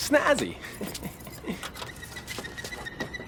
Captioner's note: chuckles